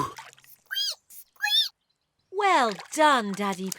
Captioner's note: laughs; squeaks